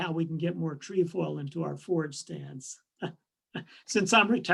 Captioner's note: laughs